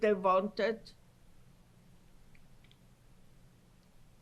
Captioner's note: pauses for 10 seconds